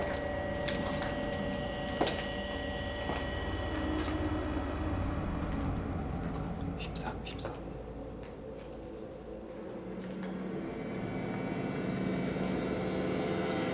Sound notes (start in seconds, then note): 6.9 whispers; 11.1 eerie music